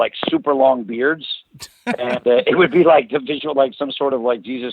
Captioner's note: laughs